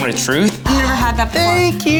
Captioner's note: gasps